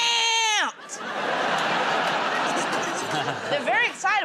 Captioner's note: laughter